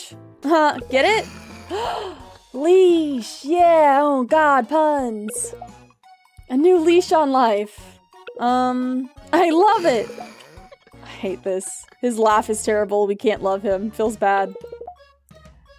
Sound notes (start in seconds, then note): 1.2 dramatic gasp; 9.4 laughing